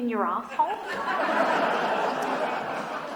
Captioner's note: phone clicks